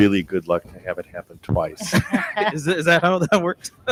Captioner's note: laughs